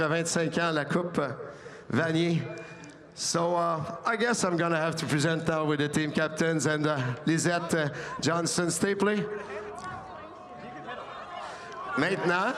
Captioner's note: speaking French